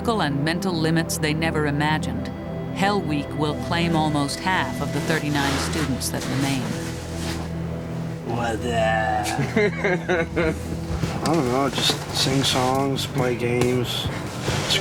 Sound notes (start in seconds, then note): 0.0 voiceover; 9.2 man chuckles